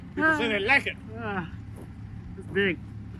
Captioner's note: laughs